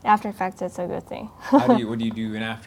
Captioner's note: laughing